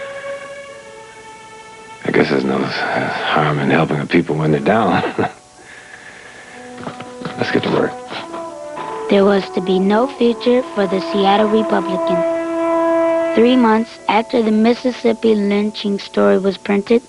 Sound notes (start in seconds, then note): 2.1 sighing; 4.7 chuckles